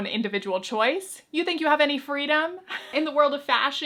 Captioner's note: chuckles